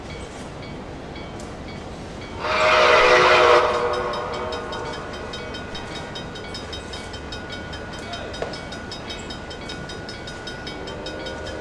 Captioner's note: C&O Greenbrier whistle, railroad crossing ringing in the distance